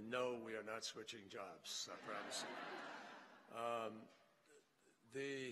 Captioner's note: laughter